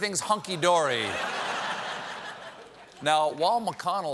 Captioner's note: laughter